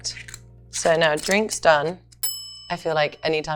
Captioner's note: timer dinging